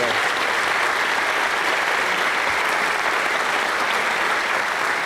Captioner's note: applause